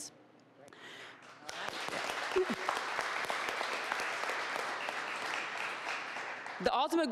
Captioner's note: applause